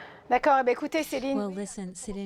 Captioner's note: speaking French